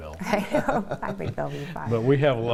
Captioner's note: laughing